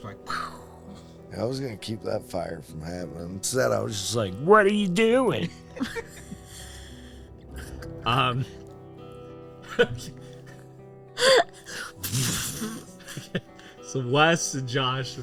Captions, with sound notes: Yeah, to stop him from doing it, I was getting ready to know this guy. I was gonna keep that fire from happening. So that I was just like, what are you doing? (both laughing)